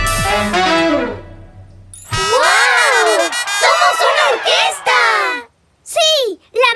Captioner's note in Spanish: Música Alegre; Sonido de bocina